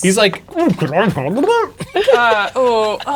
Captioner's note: makes exaggerated drowning noises; laughing